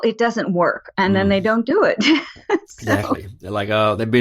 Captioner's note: laughs